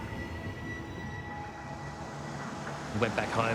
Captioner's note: dramatic music; car engines revving